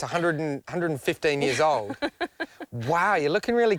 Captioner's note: laughs